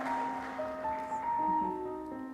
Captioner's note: applause